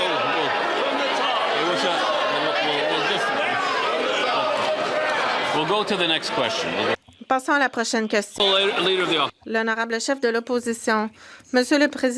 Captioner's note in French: voix de l'interprète